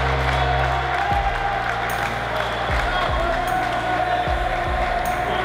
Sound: cheers and applause

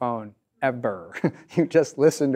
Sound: chuckles

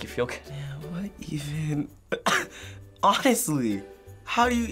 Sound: chuckles

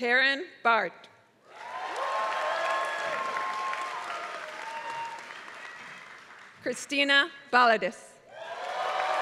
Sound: applause; applause

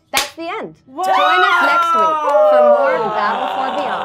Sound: gamers cheering; claps

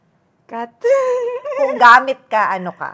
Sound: laughs

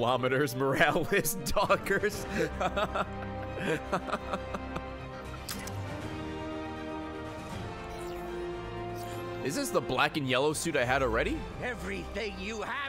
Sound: laughs

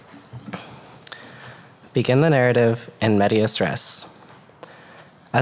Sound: mutters

